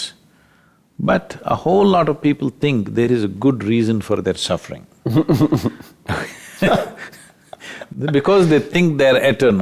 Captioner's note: both Laugh